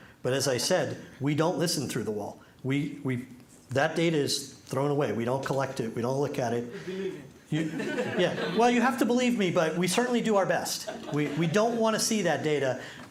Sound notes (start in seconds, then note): 7.6 laughter